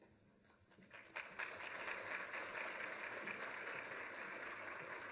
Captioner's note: applause